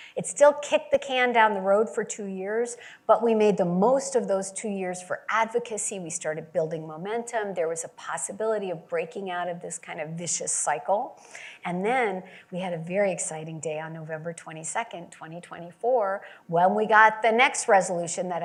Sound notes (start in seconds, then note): none